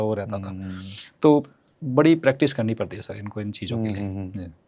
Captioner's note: nasal voice